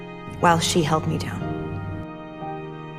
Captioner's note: voiceover